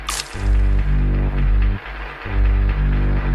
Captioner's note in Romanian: Aplauze